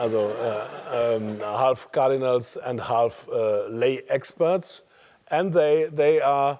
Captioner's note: laugh